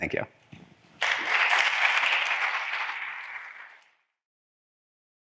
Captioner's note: audience applauding